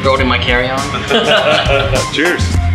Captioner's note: laughing